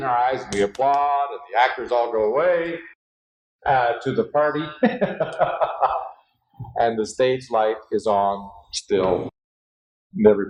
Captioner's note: laughter